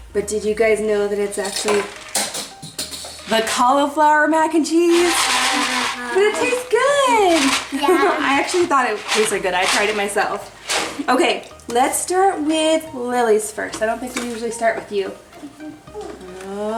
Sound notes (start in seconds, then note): 4.8 pasta rattling in box